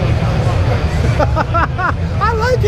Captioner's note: laughing